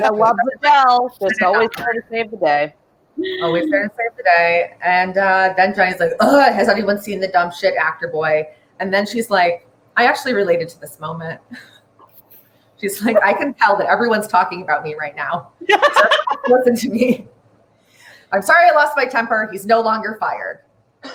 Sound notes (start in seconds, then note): 0.0 laughs; 6.2 groans frustratedly; 15.6 laughs; 16.1 cackles